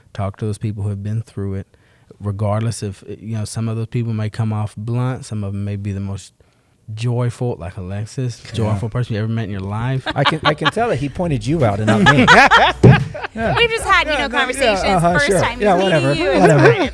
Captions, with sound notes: Talk to those people who have been through it. Regardless if-- Some of those people may come off blunt, some of them maybe the most joyful, like Alexis, joyful person you ever met in your life. [laughs] I can tell that he pointed you out and not me. [laughter] We've just had conversations, first time meeting you, it's fine.